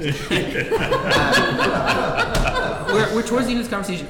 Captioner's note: laughing